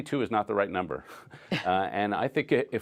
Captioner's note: laughter